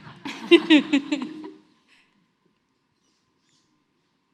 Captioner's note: everyone laughs